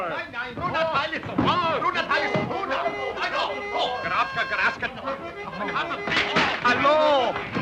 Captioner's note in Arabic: الرجال يتحدثون بصوت عالٍ بلغة أجنبية; الرجال يصرخون على بعضهم البعض